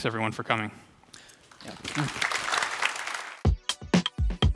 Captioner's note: applause